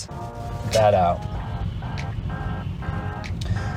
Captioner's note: car engine revving